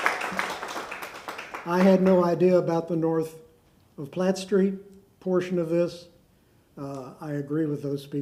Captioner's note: applause